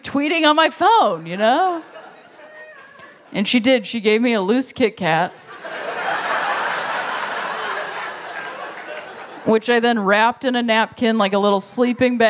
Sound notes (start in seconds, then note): 2.0 laughter